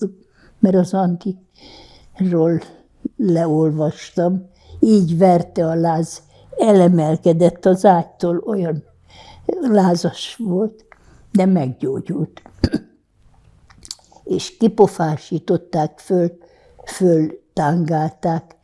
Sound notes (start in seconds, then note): 12.5 clears throat